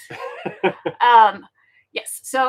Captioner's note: laughing